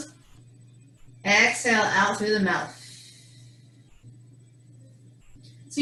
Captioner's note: exhales